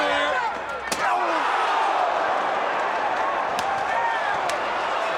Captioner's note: crowd groaning